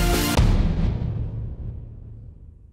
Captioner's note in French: Boum